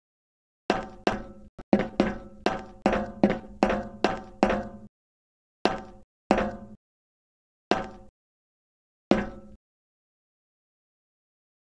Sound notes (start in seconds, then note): 0.7 metal Footsteps; 6.3 metal Footstep; 9.1 metal Footstep